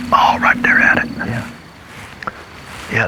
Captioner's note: whispering